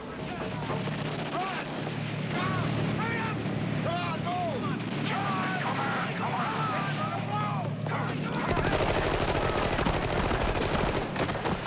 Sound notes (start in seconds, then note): 0.1 guns firing; 3.5 men screaming